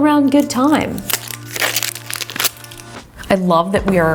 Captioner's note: crunching